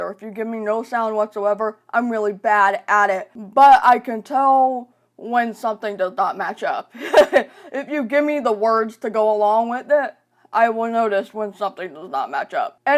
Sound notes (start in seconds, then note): 7.0 laughing